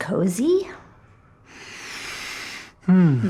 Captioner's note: deep breath